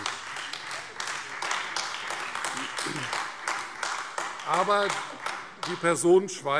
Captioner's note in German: Beifall Freie Demokraten und AfD